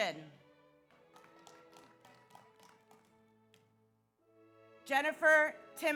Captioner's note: audience applauds; audience cheers